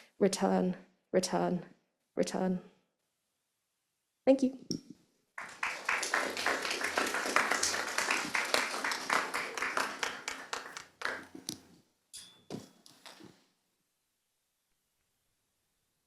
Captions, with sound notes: Return, return, return." Thank you. (audience applauding)